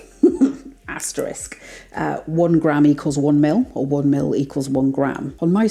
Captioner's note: laugh